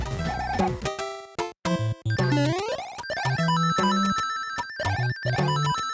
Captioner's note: video game music; Super Mario Bros. 3 sounds